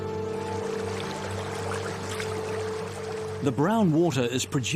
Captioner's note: water splashes